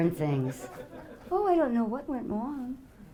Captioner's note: audience laughing